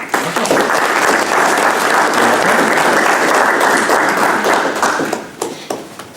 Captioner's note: applause